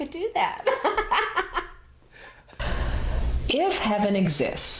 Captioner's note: laughs